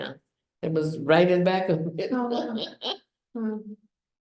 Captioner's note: laughs